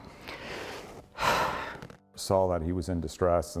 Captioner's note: exhales